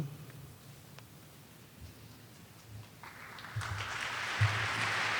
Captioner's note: audience claps